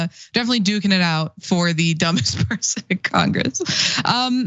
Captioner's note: laugh